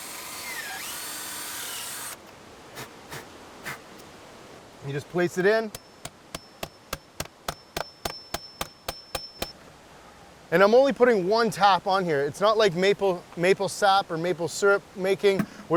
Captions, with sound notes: You just place it in. (hammering noise) And I'm only putting one tap on here. It's not like maple sap or maple syrup making,